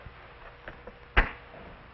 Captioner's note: thump